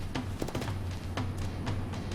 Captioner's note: thud